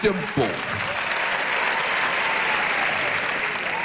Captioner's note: cheering